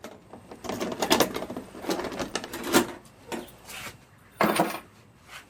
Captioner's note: lock opening